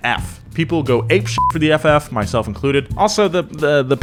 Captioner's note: beeps